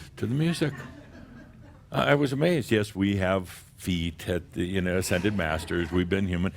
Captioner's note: a few chuckles